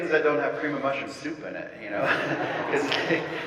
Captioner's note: audience laughing; laughs